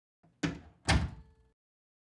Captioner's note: door open, close